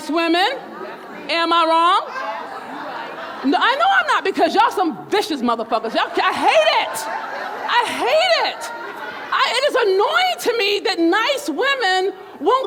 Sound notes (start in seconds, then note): 2.6 crowd all talking